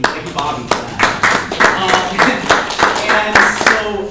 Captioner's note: applause